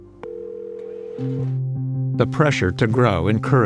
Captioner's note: phone ringing